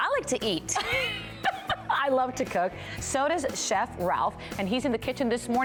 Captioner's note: laughter